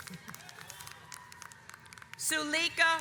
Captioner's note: audience applauds